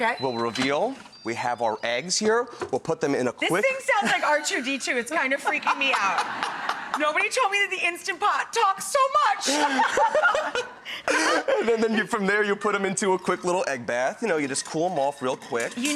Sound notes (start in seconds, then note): 5.4 laughs; 9.4 laughing